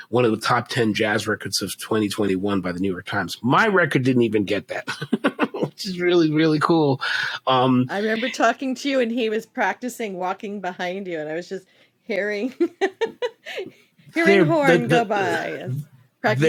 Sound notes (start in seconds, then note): 4.8 chuckle; 13.0 chuckle